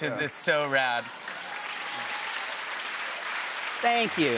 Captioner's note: cheers and applause